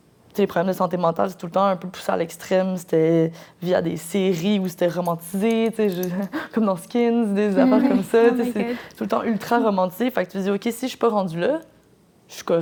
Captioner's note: laughs